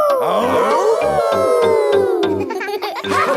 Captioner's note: all howling; howling